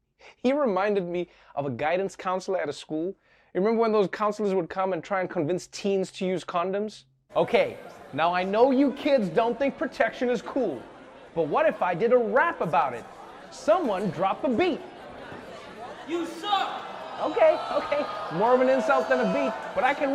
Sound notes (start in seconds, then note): 17.2 gasping, whooping